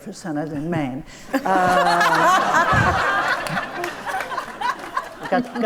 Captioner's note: audience laughs